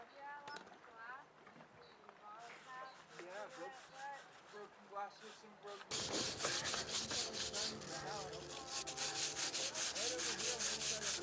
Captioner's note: people talking, scrubbing and bucket noises